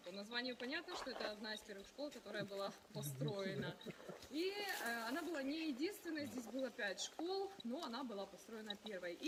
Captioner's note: speaking in foreign language